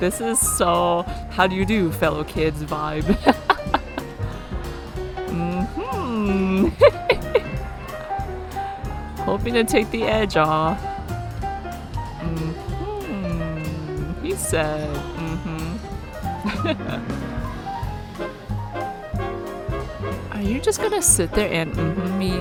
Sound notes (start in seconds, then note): 3.1 laughs; 16.3 laughs